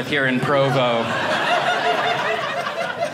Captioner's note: audience laughing